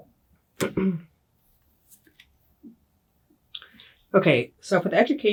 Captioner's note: clears throat